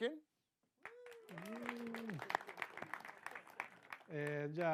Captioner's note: mild applause